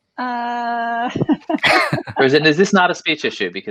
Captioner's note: laughs